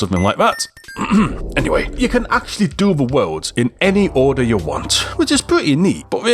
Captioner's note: ahem